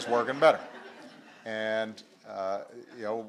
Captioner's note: laughter